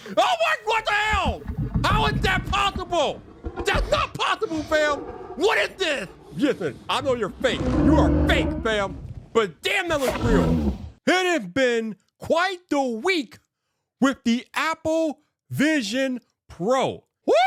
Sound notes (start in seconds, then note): 7.8 dinosaur roars; 10.3 dinosaur grunts